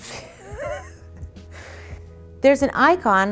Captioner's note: laughs